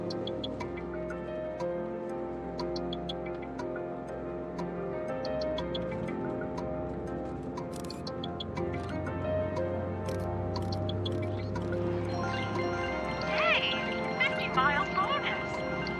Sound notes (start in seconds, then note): 7.7 photo snap effects; 11.8 triumphant bells